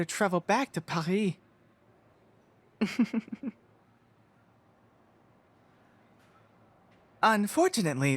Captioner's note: chuckle